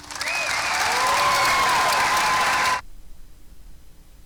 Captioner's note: applause; cheering